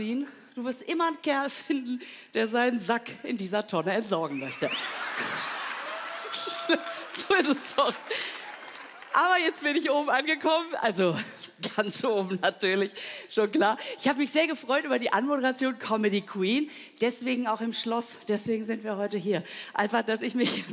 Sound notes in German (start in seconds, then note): 4.6 Lachen, Jubel; 4.8 lacht